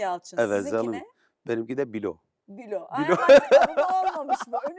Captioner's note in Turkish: kahkaha